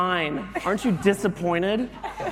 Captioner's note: laughter